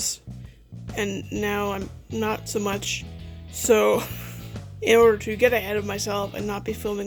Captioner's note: laughs